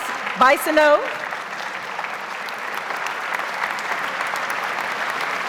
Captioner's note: audience applauds